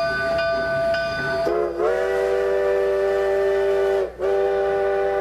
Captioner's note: train hoots and steams